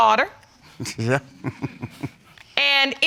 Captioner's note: chuckles